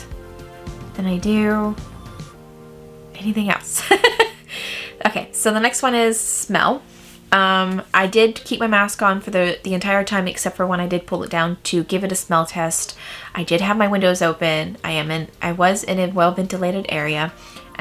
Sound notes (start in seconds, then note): 3.8 laughs